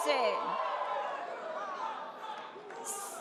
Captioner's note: audience cheers